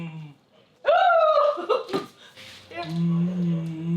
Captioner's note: laughs